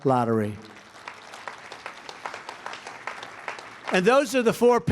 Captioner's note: applause